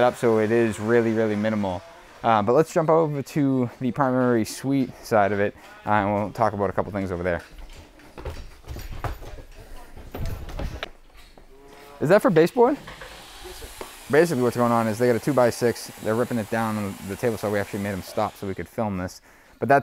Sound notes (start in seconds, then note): 7.8 foot steps; 7.8 metal jingling; 12.7 table saw buzzing